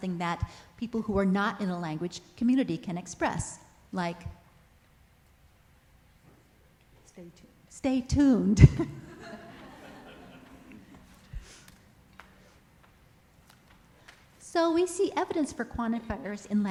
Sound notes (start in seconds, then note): 8.8 audience laughs